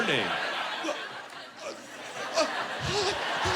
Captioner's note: stammering